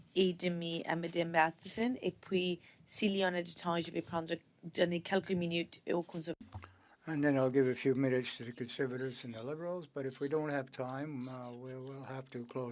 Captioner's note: speaking French